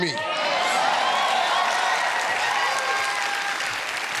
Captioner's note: cheers and applause